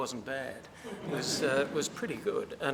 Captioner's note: laughter